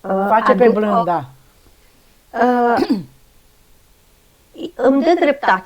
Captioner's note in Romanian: voce dreasă